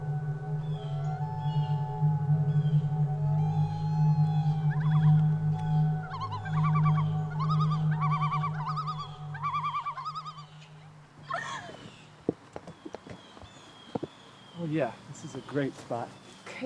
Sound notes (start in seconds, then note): 1.1 loons warbling; 11.2 Donna laughs